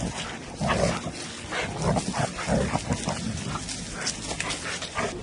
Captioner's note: dog's growling; dog's playing